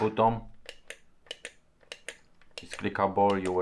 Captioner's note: clicking button